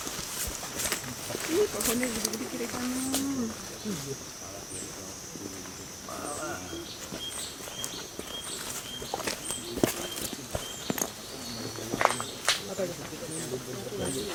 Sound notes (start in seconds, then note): 0.0 footsteps of participants walking within the trees and vegetations; 7.3 birds chirping